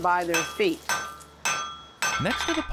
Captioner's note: metal clanking